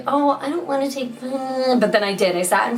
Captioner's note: whining